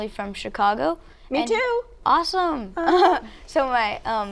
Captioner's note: chuckles